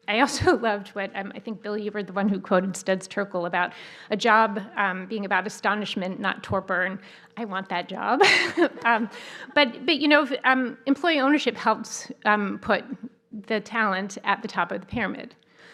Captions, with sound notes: I also loved what I think, Billy, you were the one who quoted Studs Terkel about a job being about astonishment, not torpor, and I want that job. [chuckles] Employee ownership helps put the talent at the top of the pyramid.